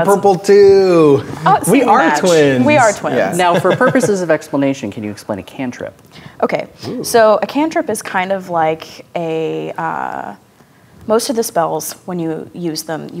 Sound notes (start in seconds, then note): 2.6 laughing